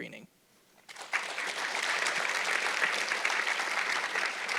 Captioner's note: audience clapping